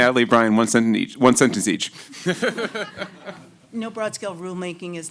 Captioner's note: laughter